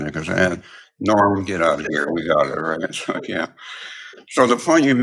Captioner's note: laugh